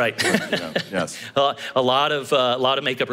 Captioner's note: laugh